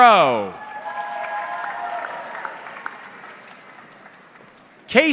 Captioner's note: audience clapping